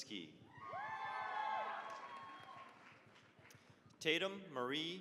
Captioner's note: cheering, applause